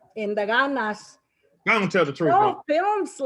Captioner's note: speaking Spanish